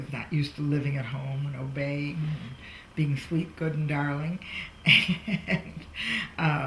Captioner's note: laughs